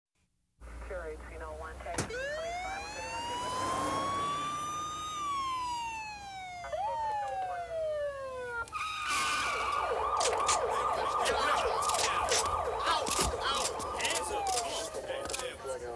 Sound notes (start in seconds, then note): 2.2 police siren wailing; 8.7 car tires screeching